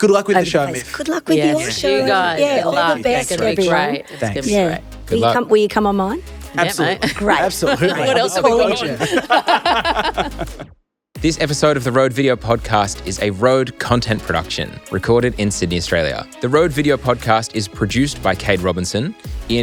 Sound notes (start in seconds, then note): 1.4 indistinct, overlapping chatter; 9.3 group laughs